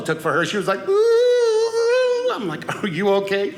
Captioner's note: crying